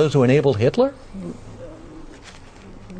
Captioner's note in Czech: Slyšitelné váhání